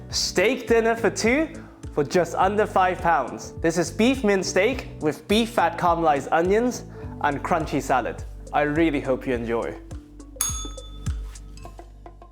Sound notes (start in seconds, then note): 10.4 bell rings